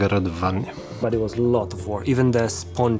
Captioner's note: in English